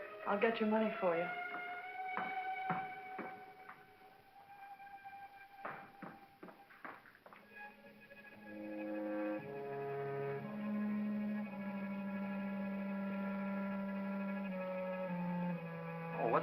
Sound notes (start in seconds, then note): 2.3 Ann's footsteps; 7.4 ominous music